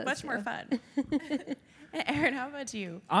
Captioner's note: laughter